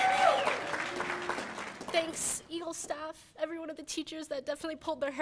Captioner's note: cheers and applause